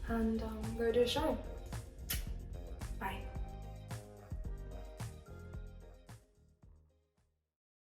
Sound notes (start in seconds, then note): 2.0 kiss; 3.9 soft music plays